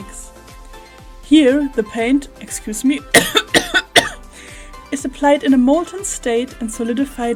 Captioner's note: coughs